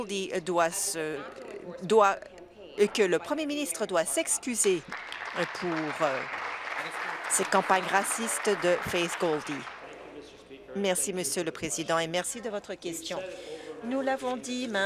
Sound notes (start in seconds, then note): 8.4 applause